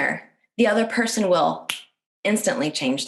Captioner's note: fingers snap